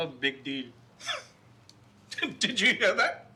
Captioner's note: father scoffs